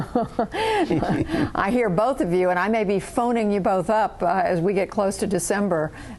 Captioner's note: laughter